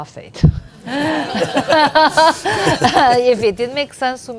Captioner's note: laughing